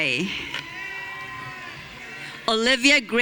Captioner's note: audience cheering